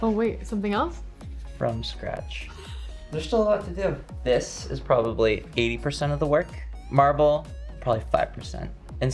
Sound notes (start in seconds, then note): 2.8 chuckles